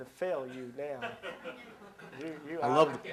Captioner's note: laughter